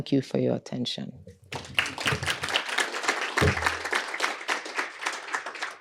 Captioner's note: applause